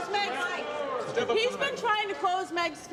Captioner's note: crowd clamors